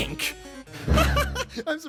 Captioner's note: laughter